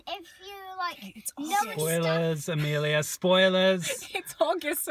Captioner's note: whispers